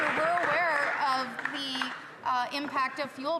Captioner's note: some Applause